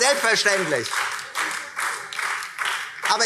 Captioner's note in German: Beifall Freie Demokraten und BÜNDNIS 90/DIE GRÜNEN